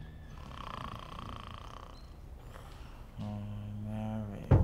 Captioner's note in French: Shan ronfle bruyamment